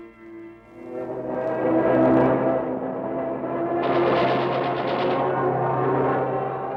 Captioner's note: plane engines roar